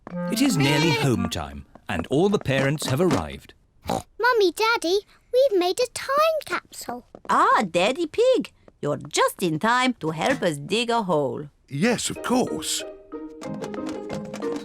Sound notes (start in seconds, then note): 3.8 oinks